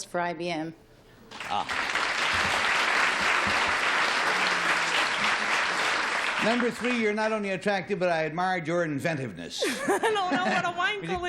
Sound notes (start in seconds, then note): 1.3 applause; 9.6 laughs